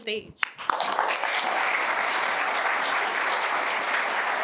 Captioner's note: applause